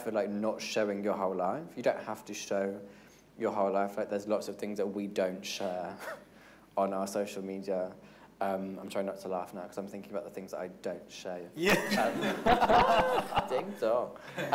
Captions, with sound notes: for not showing your whole life. You don't have to show your whole life, like, there's lots of things that we don't share on our social media. I'm trying not to laugh now 'cause I'm thinking about the things I don't show. (everyone laughing) Ding dong.